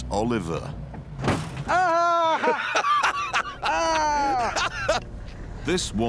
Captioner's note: jeremy laughs